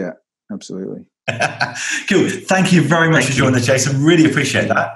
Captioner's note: laughs